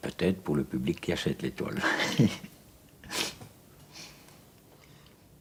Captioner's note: laughs